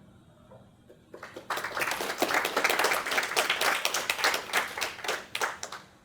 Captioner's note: applause